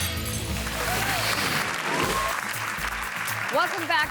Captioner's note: audience clapping